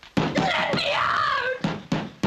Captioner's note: banging